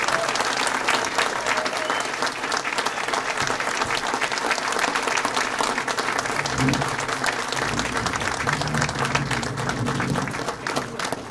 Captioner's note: applause